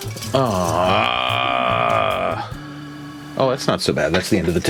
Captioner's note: narrator groans